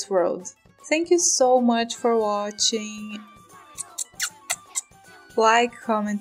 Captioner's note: kiss noises